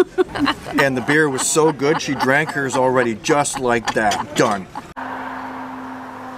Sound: laughing

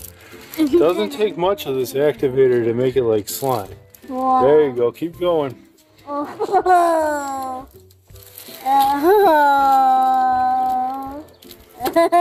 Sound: laughs

